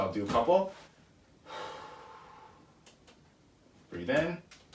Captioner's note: exhales